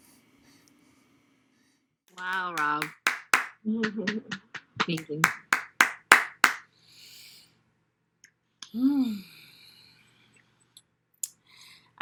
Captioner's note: applause